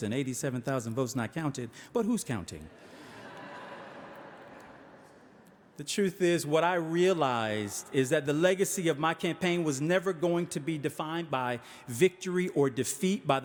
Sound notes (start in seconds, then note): 2.8 audience laughing